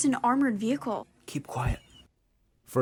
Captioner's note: through translator